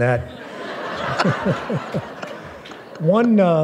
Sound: laughter

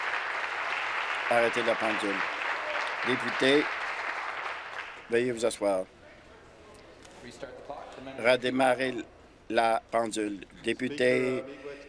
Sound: applause

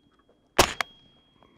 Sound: bang

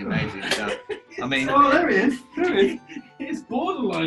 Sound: key giggling

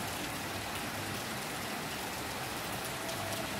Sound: rain Sounds

